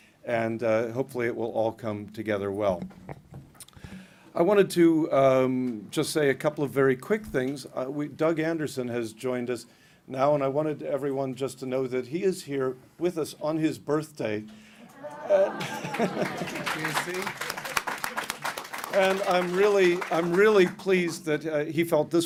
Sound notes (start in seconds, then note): 14.9 applause